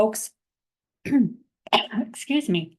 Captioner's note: coughing